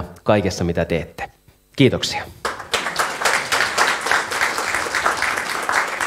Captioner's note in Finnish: Aplodeja